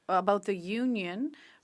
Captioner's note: speaking French